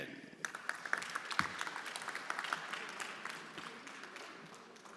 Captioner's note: everyone applauding